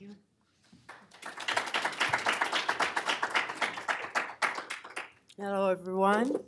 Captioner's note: applause